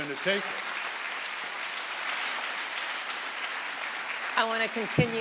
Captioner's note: audience applauding